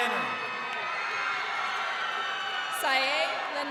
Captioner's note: crowd cheering